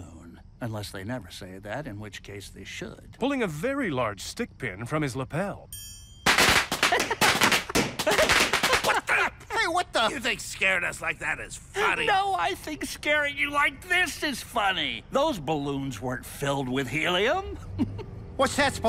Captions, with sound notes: Unless they never say that, in which case, they should. - Pulling a very large stickpin from his lapel. [bell chimes and balloons pop] - [laughs] - What the-- - Hey, what the-- - You think scaring us like that is funny? - No, I think scaring you like this is funny. Those balloons weren't filled with helium. Hee hee. - What's that supposed to mean?